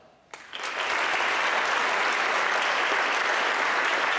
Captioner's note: audience clapping